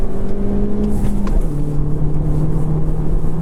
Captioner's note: engine revving